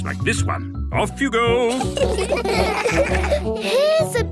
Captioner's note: laughter